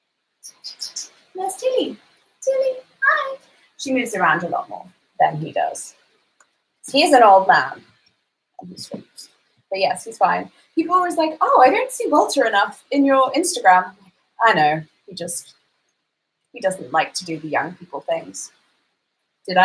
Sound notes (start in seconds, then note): 0.4 lips squeaking